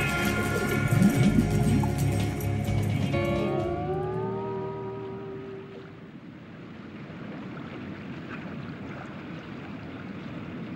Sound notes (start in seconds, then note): 0.6 bubbles; 7.4 gentle harbor waves